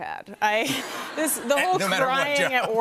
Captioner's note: laughter